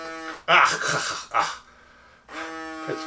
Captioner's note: machine buzzes; coughing and clearing throat; machine buzzes